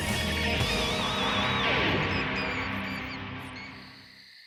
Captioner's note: squeaking